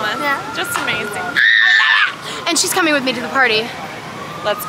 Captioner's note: shrieks